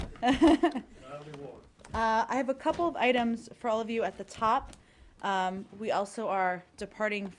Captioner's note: laughter